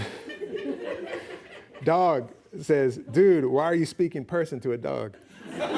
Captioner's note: laughing